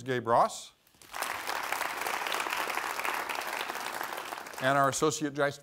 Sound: applause

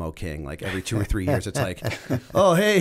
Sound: chuckle

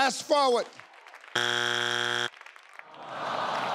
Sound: board honking; audience sighs

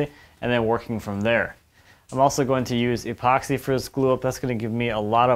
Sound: none

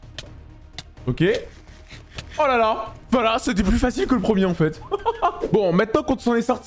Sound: laughs

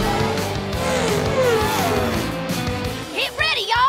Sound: engine revving

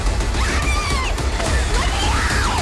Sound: dramatic music; screaming

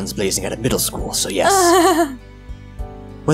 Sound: laughs

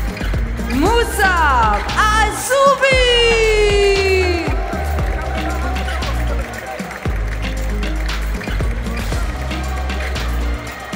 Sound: applause

